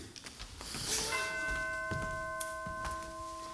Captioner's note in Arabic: رنين